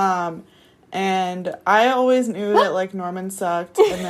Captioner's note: gasping